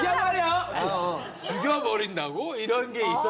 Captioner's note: chilling "Kill you...?"